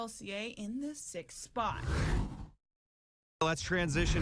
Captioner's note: air whooshes